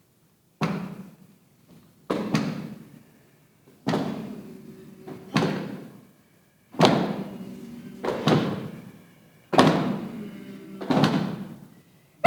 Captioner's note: stomping